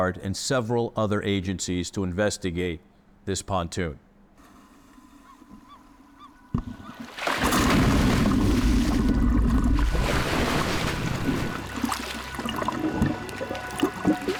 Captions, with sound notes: and several other agencies to investigate this pontoon. (seagulls squawking) (water splashing) (water gurgling and splashing)